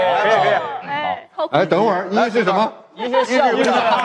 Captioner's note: laughter and applause